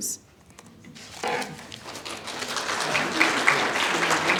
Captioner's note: applause